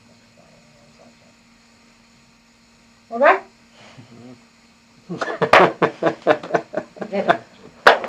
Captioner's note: laughter